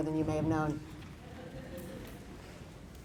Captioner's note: laughter